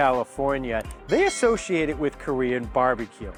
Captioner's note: bell dinging